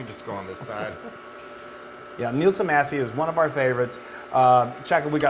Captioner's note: laugh